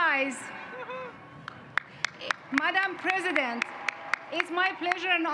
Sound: applause

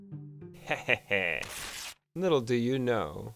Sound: laughing

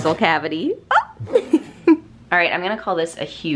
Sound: laughs

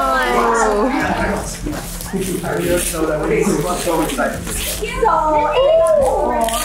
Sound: family chatters excitedly

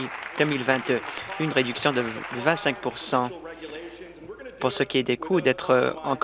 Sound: applause

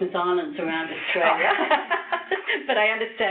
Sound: laughs

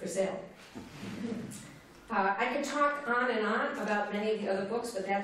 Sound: laughter

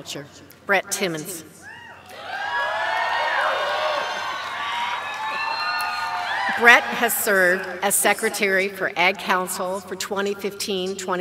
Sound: applause

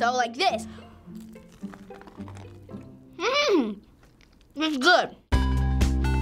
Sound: crunching; upbeat theme music

